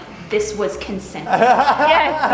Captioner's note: laughter